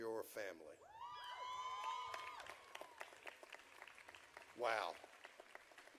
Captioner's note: audience cheering